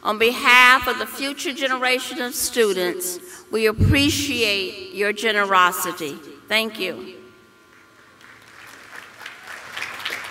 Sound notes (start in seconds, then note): 7.9 applause